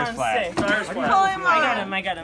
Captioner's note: voiceover